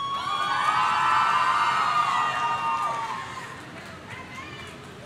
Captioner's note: audience cheering